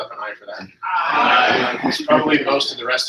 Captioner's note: multiple voices